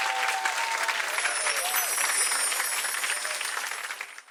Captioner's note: bells twinkle